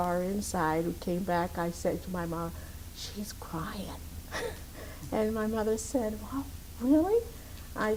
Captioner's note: laugh